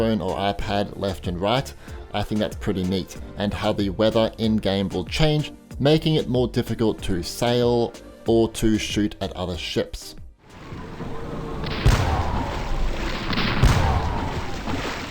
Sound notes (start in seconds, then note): 10.5 air whooshing; 10.6 cannons booming